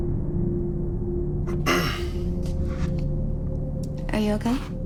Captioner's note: clears throat